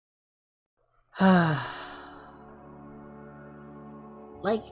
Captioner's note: sigh